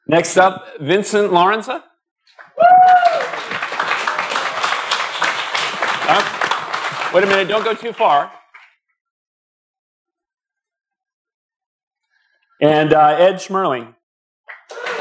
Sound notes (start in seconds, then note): 2.3 applause